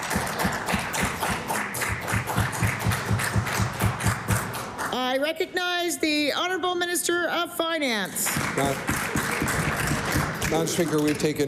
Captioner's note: applause